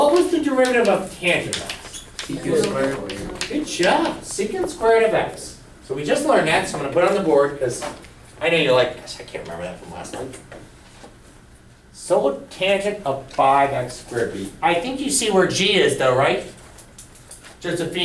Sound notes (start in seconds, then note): 3.3 voiceover